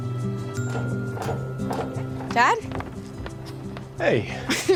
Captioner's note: footsteps approaching